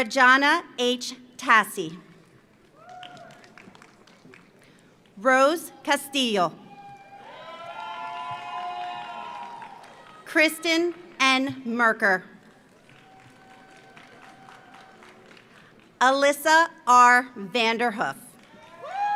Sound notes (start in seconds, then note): 2.5 audience applauds; 2.7 audience cheers; 6.6 audience cheers; 7.0 audience applauds; 12.5 audience applauds; 12.9 audience cheers; 18.4 audience applauds; 18.6 audience cheers